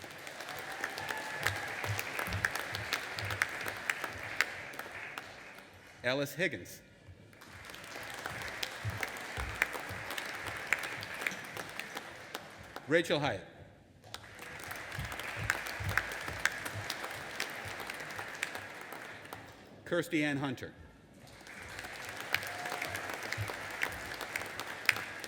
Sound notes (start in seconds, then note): 0.0 audience applauding and cheering; 7.3 audience applauding; 14.1 audience applauding; 21.2 audience applauding